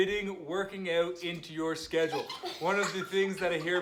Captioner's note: kids laugh